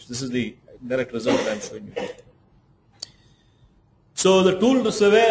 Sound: coughs drown out conversation

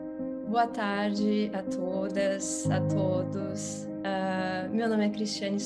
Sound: speaking in Portuguese

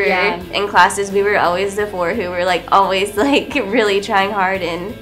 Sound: laughter

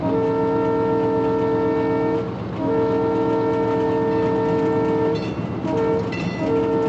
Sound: horn blaring

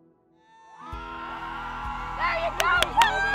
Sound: crowd cheering

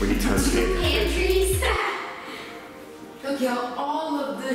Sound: laughs

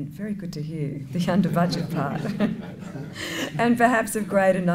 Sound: laughter

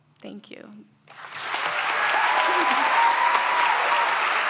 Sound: applause

